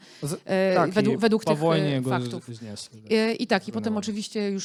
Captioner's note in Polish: białoruski